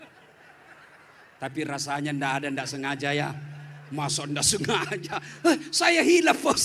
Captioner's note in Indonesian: tertawa